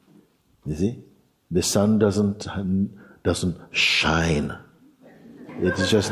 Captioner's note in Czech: Smích